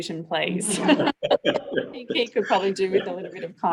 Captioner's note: everyone laughing